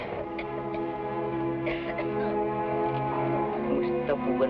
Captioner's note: woman coughing; people speaking in Tagalog